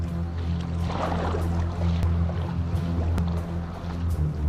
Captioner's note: none